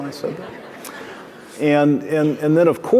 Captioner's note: audience laughing